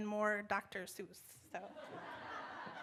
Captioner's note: laughter